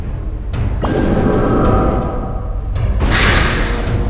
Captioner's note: thunder storm